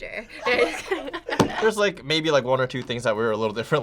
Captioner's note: laughs